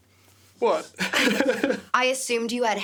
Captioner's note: laughs